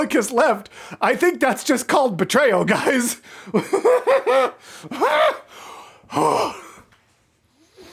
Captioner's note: deranged laughter